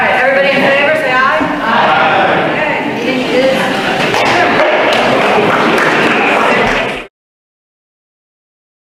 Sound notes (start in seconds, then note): 4.8 applause